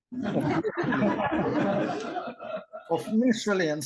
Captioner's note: laughter